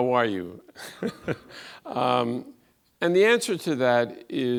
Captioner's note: laughs